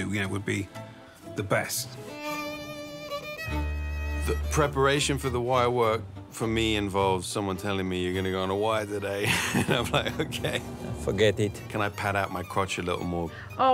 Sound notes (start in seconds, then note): 9.2 laughs